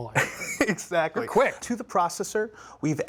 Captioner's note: laughing